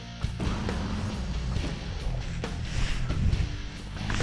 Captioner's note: dragon roaring